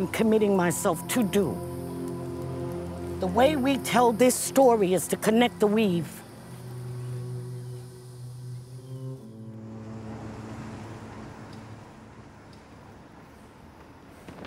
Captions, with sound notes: committing myself to do. The way we tell this story is to connect the weave. (waves crash)